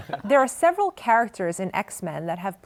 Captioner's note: laughter